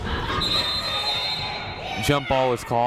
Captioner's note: whistle blows